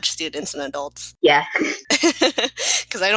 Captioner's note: laugh; giggle